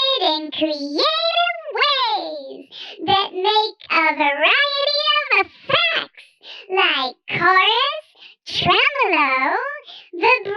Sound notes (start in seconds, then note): none